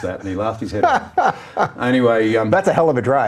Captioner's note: laughing